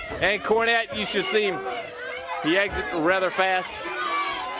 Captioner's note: crowd chatter